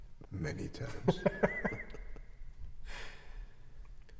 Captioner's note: all laughing